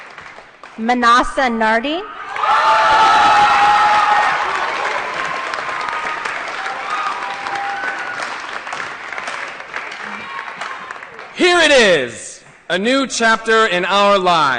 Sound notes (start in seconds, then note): 0.0 applause; 2.2 applause & Cheering